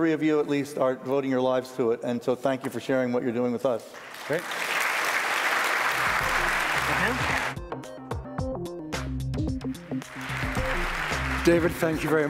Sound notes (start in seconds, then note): 3.9 applause